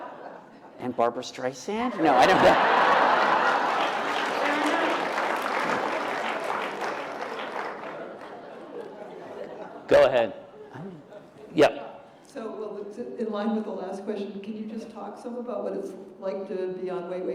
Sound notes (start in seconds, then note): 1.9 laughter